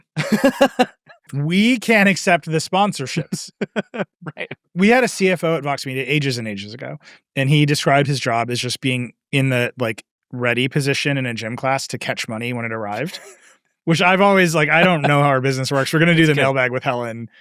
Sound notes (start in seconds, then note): 0.1 laughing; 13.9 laughing